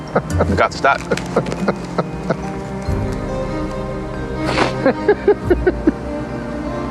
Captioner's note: Rick laughing